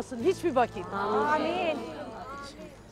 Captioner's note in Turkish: Hep bir ağızdan